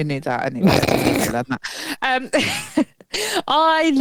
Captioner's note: laughing